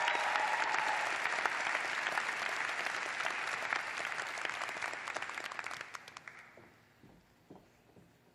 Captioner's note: applause